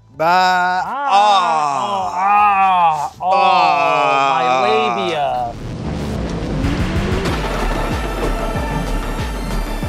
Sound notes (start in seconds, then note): 2.2 groaning; 7.2 tense music